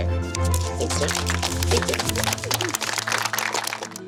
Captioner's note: clapping